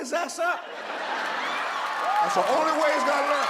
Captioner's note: audience applauds; audience cheers